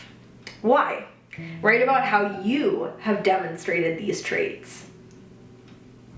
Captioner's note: stammers